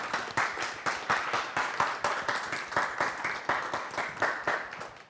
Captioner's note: audience applause